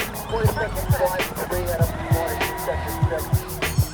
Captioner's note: police radio chatter